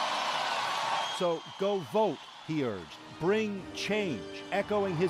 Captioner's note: cheers and Applause